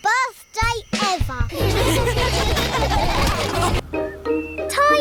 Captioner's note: all laughing